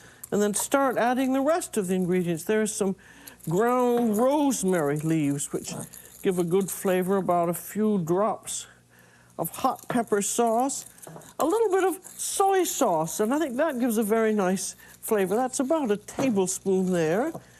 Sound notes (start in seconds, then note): none